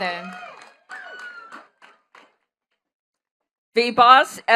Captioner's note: attendees cheering and clapping